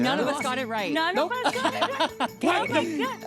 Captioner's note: laughing